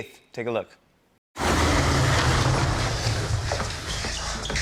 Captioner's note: rumbling